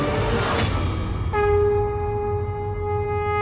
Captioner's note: conch blows